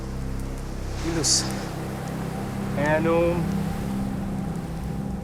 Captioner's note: speaking Latin